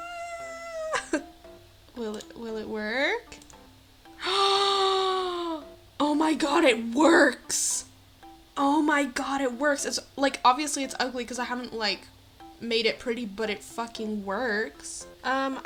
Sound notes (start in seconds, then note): 0.0 screams; 4.2 gasp